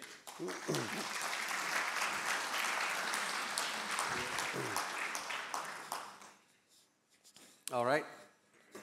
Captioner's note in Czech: Potlesk